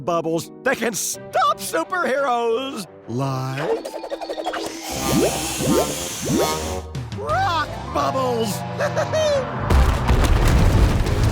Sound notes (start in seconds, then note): 8.8 laughs